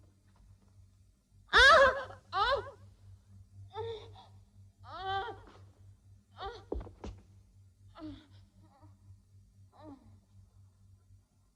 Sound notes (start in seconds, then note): 2.0 Edith whimpering; 3.2 Edith moaning